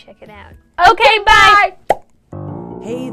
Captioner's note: pop